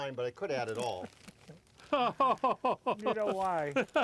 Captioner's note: laughs